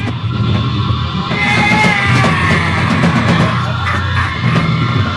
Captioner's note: Voldemort screaming